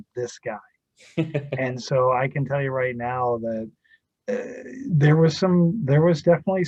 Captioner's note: chuckles